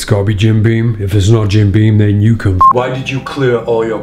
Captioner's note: beep